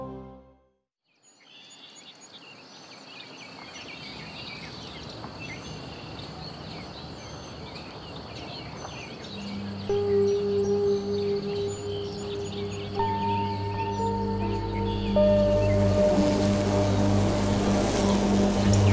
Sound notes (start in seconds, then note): 1.5 birds chirping; 9.9 calm music; 16.2 bees buzzing